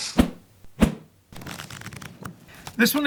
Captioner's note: pages flipping